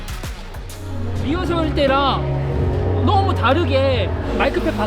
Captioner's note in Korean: 앵콜 전 음향 피드백